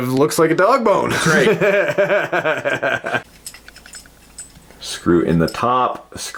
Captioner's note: laughing